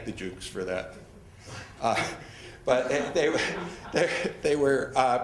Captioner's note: laughing